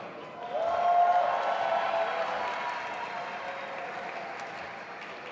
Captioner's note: audience applauding and cheering